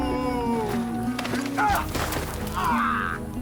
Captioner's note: groaning